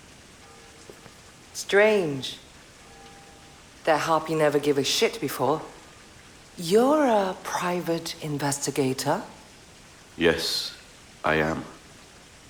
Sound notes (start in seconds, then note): 1.4 bell clangs